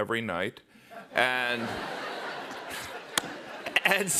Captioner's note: laughter